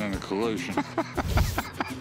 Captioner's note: laughter